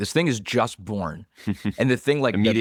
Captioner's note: laughs